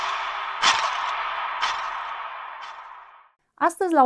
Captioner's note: scream